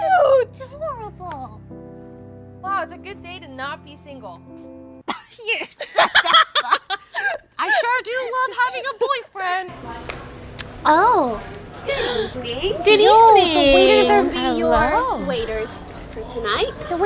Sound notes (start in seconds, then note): 5.7 laughing